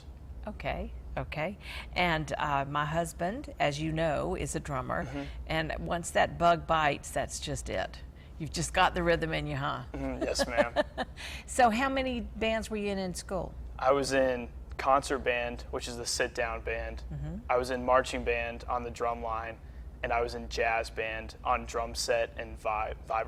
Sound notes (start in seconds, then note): 9.9 laughs